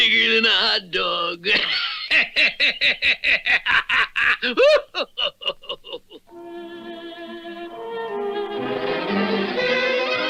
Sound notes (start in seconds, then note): 1.4 Simon Bar Sinister Laughs